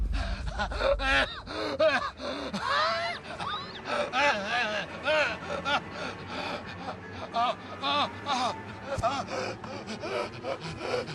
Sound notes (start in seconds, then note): 0.1 Pappy gasping; 7.3 Pappy groaning and gasping